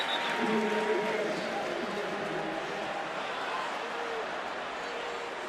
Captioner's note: announcer on pa